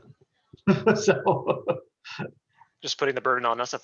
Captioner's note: laughs